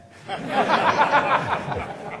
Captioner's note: laughter